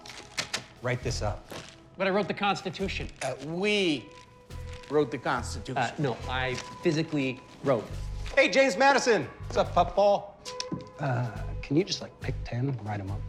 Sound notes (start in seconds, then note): none